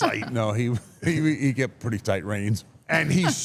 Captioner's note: laughs